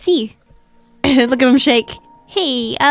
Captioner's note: laughs